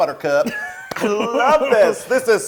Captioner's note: laugh